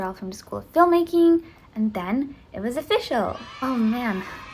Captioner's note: children cheering sfx